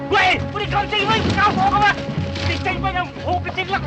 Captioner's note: speaking Chinese